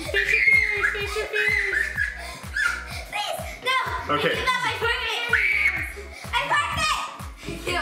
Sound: screaming

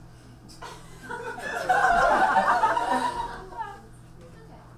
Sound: audience laughs

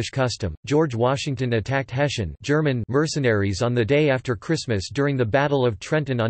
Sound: German

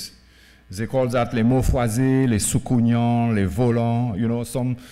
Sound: speaking french

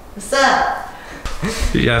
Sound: laughs

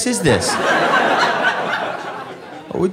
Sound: audience laughing

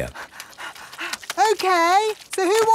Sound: panting

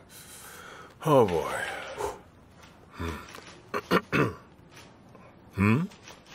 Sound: clears throat

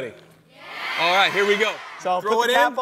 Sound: crowd

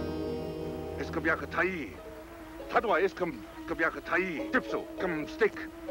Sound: dramatic music; speaking in foreign language

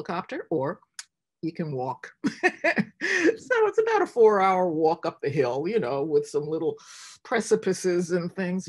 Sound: laughs

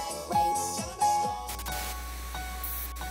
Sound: static

